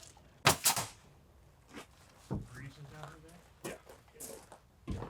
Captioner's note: nail gun shooting